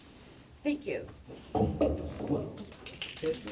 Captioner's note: applause